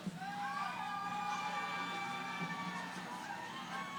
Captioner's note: cheering